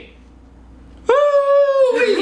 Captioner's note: howling; laughing